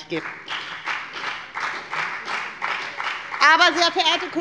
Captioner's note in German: Beifall bei der FDP